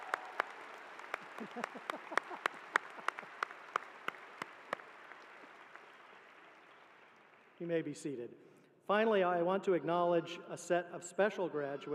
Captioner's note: applause